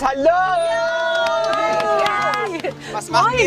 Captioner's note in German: Jubel